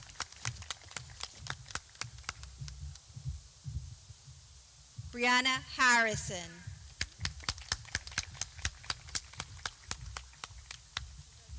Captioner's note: clapping